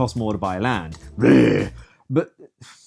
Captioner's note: Incomprehensible Tory grunt